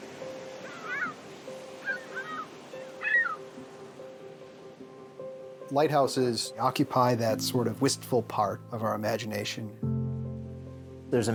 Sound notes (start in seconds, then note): 0.1 delicate piano; 0.3 seagulls calling